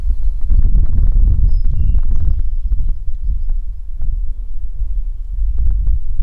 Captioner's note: wind fluttering; birds chirping